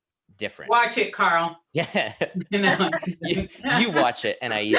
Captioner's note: laughs